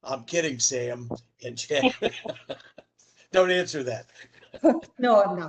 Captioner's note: laughter